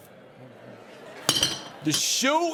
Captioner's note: audience murmuring; bottle clanking